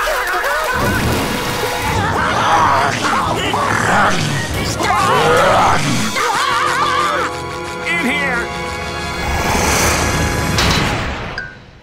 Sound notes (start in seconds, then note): 0.1 screaming